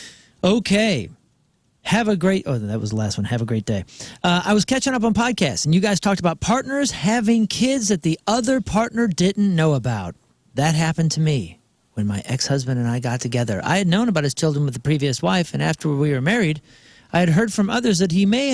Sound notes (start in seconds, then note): none